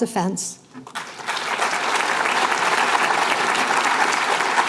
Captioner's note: applause